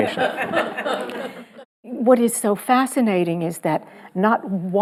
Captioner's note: audience laughing